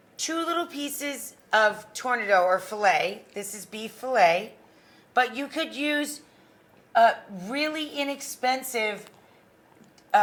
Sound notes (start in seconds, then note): none